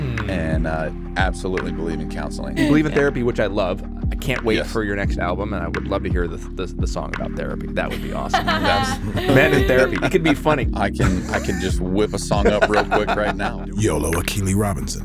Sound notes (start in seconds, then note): 7.9 laughs; 12.2 Justin laughs